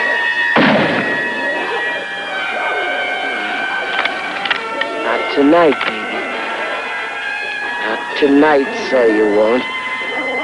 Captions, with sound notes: [gunshot] [gun clicking] Not tonight baby. Not tonight, say you won't.